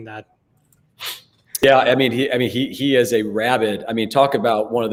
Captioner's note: sniffles